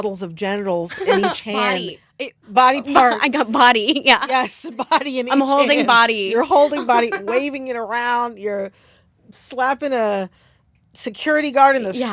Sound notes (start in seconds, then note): 0.9 laughter; 6.4 laughter